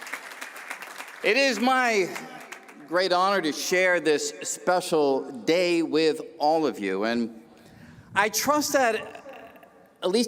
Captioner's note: cheers and applause